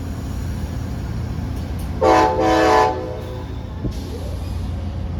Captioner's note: horn blares